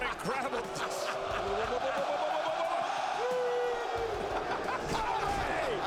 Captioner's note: laugh